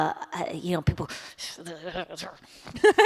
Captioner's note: grunting